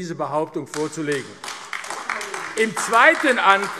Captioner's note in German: Beifall AfD